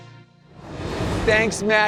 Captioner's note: transition whooshes